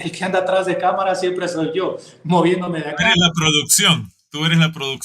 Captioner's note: laughs